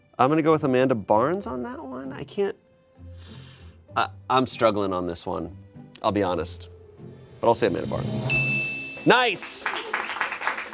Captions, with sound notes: I'm gonna go with Amanda Barnes on that one. I can't, I'm struggling on this one. I'll be honest, but I'll say Amanda Barnes. (bell dings) Nice!